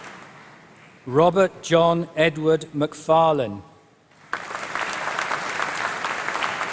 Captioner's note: applause